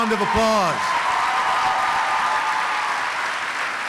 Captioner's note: applause